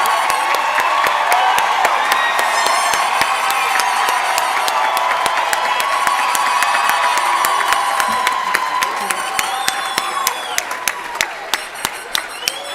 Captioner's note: cheering and applause